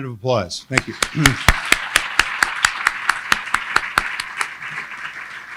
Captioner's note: applauds with crowd